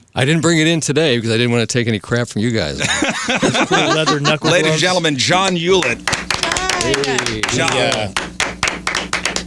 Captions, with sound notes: I didn't bring it in today because I didn't wanna take any crap from you guys. (laughing) Just put a leather knuckle on us. Ladies and gentlemen, John Hewlett. Yay! John. Yeah. (clapping)